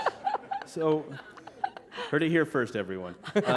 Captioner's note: laughter